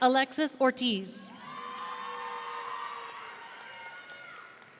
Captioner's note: audience cheering